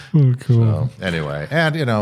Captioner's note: chuckling